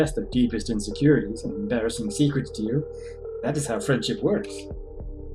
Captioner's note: none